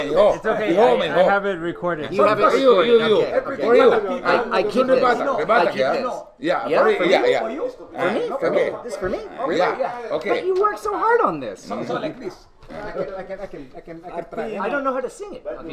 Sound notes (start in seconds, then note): 0.6 speaking in Batak